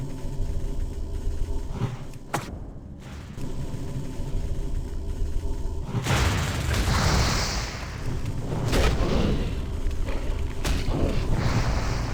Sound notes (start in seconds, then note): none